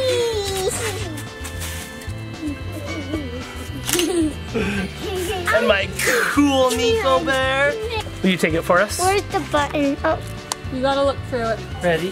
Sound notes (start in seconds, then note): 4.1 camera shutter clicks